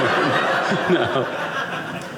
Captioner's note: audience laughing